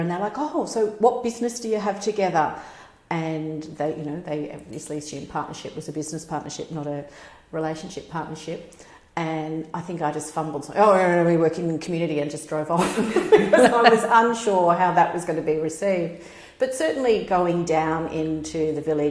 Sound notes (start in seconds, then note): 12.8 laugh